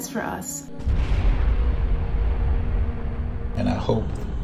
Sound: rocket engines blast

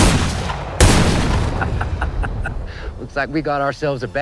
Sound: chuckles

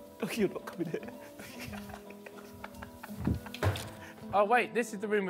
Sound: man laughs

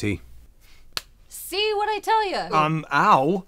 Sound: smack

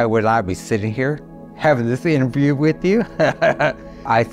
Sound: laughing

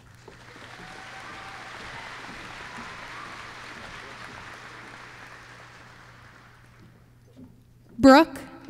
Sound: applause

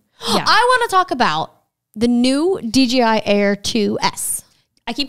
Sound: gasps

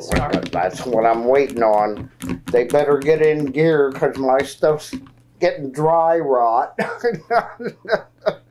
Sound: laughs

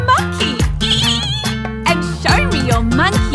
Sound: singer imitating monkey screeching

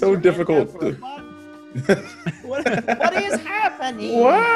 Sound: laugh

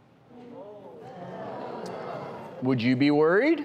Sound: murmuring

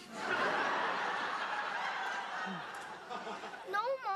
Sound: audience Laughter

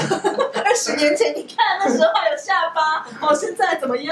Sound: laughing

